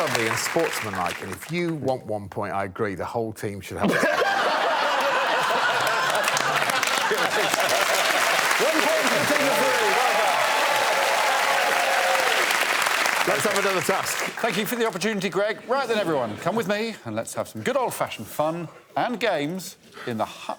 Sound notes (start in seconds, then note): 6.5 laughter; 12.6 applause